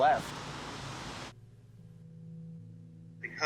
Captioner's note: low tones